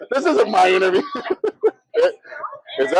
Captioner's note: laughs